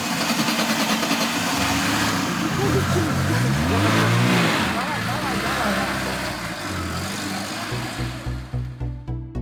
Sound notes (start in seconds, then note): 1.5 motor noise